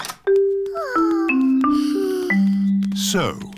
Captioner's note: peppa and george sigh